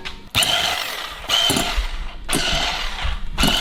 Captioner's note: whisk whirring